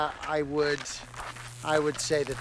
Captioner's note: electric buzzing